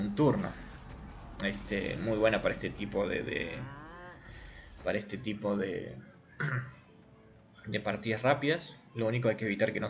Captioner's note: queer cough again